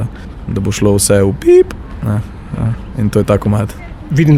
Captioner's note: beep